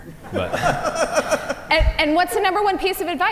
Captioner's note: panel laugh